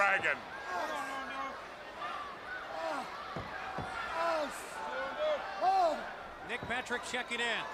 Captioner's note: crowd chatter